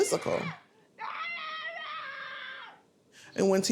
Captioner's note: screaming